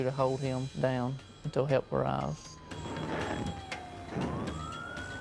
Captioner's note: siren wailing